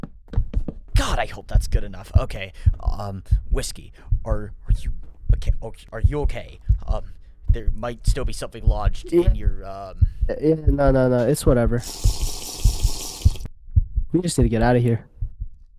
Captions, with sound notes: God, I hope that's good enough. Okay, um, Whisk3i- (Stutters) Are you- okay? Um, There might still be something lodged in your, um... Yea- No, no, no, it's whatever. (Sipping) We just need to get out of here.